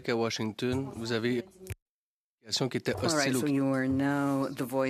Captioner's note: speaking in French